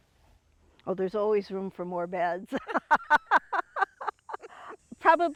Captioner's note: laughs